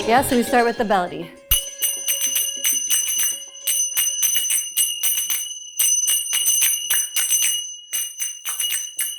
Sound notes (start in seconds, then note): 0.0 upbeat music; 1.5 zappers clacking